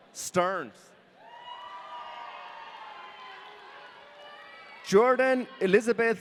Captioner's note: audience cheering